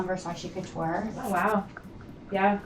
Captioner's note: woman's Voice